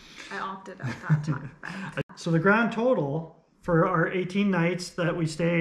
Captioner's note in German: lacht